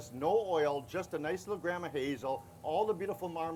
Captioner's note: none